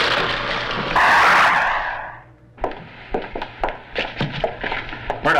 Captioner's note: air whooshes